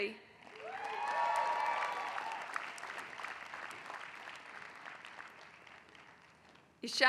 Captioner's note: applause